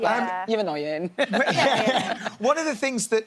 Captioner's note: laughing